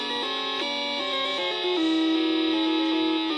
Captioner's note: keyboard clacking